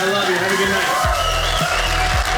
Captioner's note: audience applauding